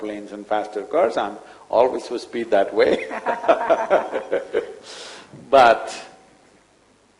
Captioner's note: laughs